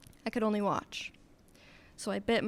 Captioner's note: none